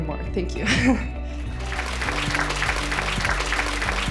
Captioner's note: applause